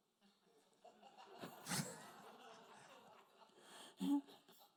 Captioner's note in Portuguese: risos da plateia